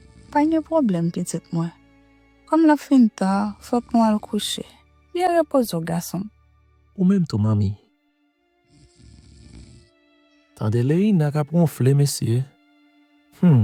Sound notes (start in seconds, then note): 8.6 snoring